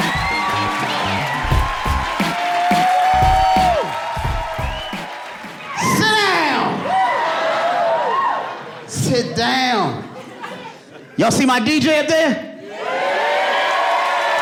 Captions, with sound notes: [WHOOPING] Sit down! [AUDIENCE LAUGHING AND CHEERING] [STERNLY] Sit down. Y'all see my DJ up there? [AUDIENCE CHEERING AND APPLAUDING]